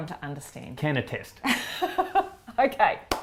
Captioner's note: laughs